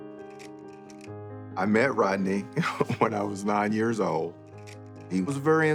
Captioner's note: chuckles